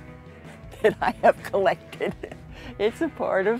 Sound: chuckling

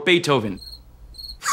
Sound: crickets; laughs

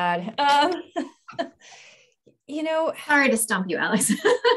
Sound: laughs

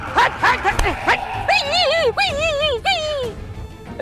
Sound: dog's sound

